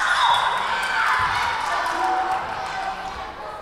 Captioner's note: whistle blowing